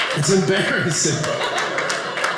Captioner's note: audience laughing